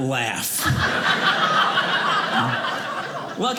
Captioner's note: audience laughing